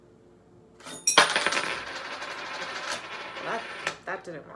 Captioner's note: coins jingling